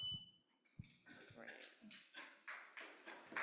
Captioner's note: applause